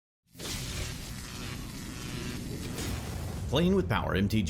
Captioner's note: electricity whirring